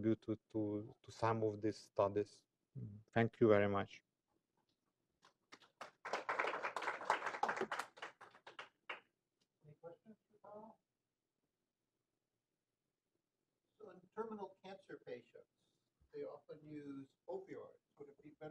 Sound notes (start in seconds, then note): 5.5 applause